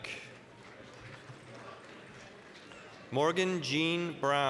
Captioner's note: applause